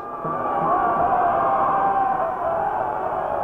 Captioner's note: cheering